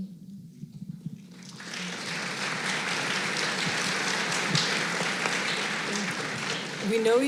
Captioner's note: applause